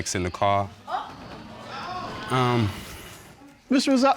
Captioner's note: audience exclaiming